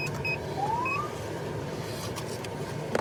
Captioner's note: siren chirps